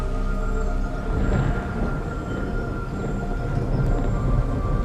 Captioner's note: thunder claps